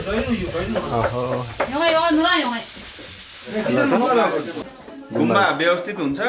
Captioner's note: indistinct conversation